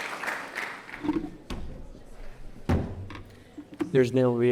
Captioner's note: object clunking